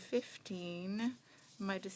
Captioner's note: speaking French